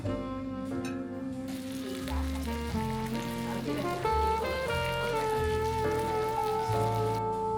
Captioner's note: the sizzling sound… wow 🤤